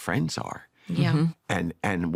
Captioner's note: all agreeing